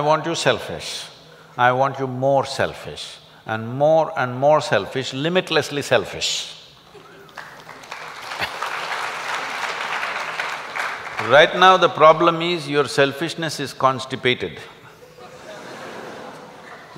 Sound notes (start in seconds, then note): 7.3 applause